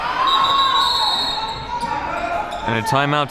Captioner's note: whistle blows